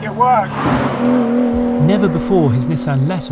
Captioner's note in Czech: řvoucí motor auta